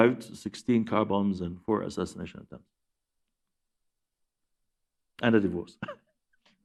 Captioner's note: laughs